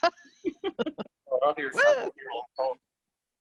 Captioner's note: laughing